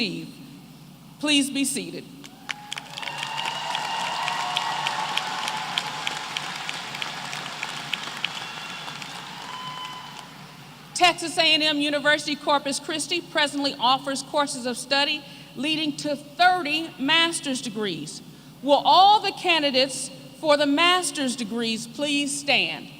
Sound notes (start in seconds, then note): 2.3 applause